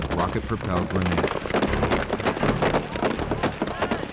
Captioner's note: gunshots